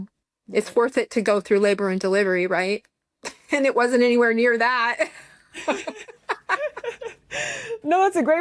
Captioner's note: laughter